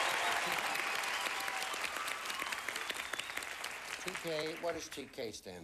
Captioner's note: audience applauding